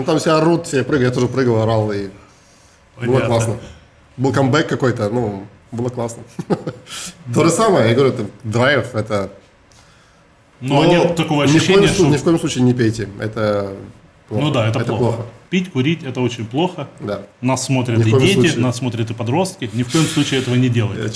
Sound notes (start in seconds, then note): 6.3 laughs